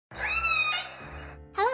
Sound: orca's noise

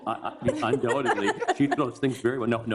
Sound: all laughing

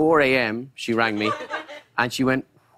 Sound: laughter

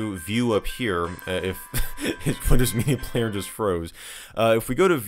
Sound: chuckling

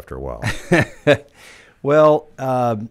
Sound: chuckling

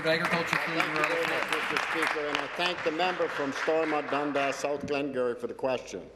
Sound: applause

